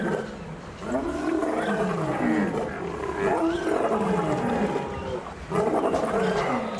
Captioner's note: lion's roar